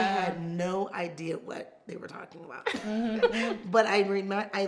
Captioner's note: laughs